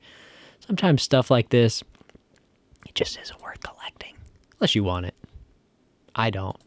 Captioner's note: whipsers